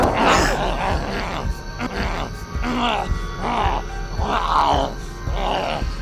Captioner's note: zombie grunting